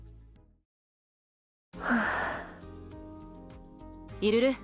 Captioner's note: sigh